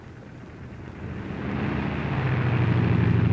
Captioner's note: plane rumbling